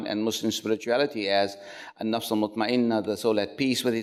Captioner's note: speaks foreign language